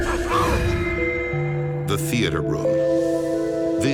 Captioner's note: voiceover